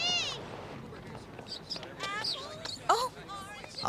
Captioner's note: squeaking